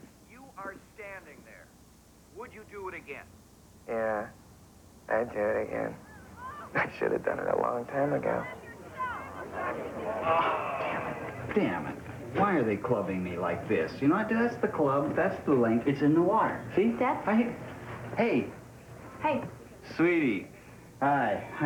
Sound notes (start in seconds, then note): 8.2 tv audience members shouting